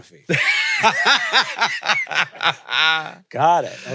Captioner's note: laugh